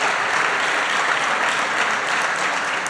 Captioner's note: applause